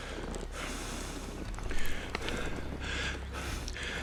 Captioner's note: breathing heavily